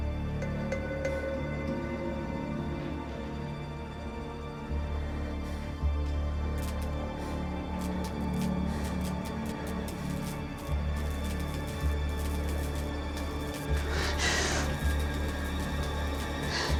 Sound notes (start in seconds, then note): 7.0 heavy breathing; 7.8 light flickering; 13.9 woman gasps